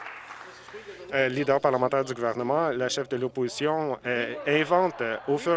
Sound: some Applause

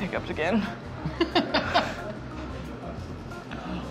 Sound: laughing

